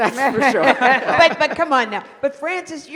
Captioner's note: laughter